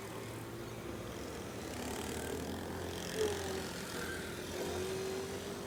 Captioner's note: motorbike engine revving